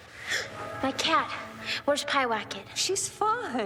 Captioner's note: gasps; sighs